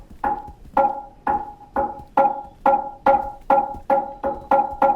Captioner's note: tapping tempo increases